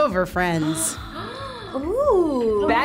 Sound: both gasping

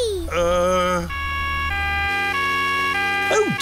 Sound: siren wailing

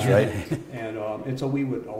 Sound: laughter

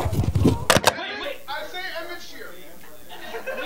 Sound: distant party shouting

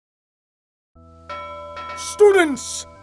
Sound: school bell rings

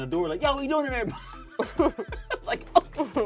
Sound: both laughing

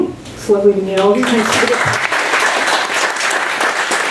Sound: applause

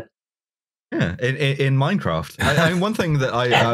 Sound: laughter

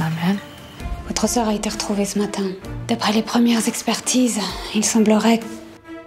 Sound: speaking in foreign language

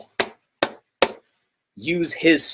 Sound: book slaps

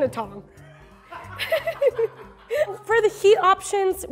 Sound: laughing

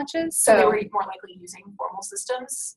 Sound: voiceover

